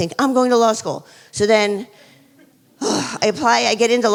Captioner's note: sighs